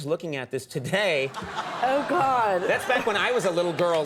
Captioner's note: audience laughing